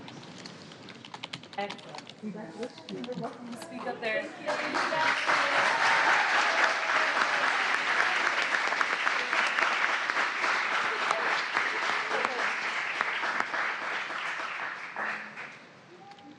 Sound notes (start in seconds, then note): 4.4 cheering